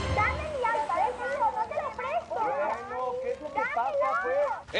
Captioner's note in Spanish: Algarabía de niños discutiendo